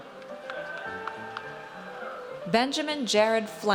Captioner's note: audience cheers